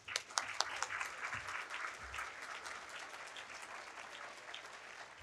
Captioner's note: audience applauding